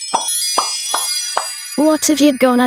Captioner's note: pop